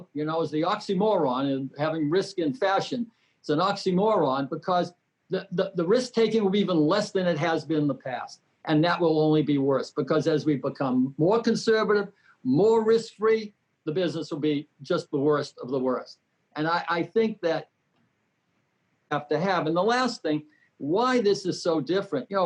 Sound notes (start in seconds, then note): 17.7 audio sound lost